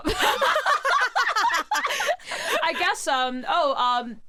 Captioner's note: both laughing